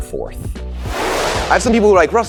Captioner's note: whooshing